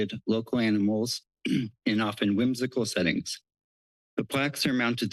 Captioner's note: clears throat